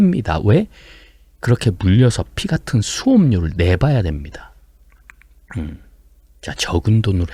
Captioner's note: clears throat